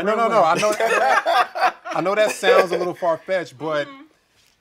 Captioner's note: laughing